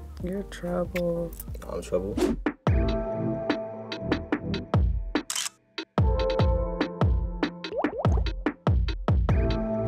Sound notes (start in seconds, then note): 2.2 upbeat music plays; 5.2 camera click; 7.7 bubbles pops